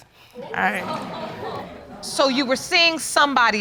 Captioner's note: audience laughing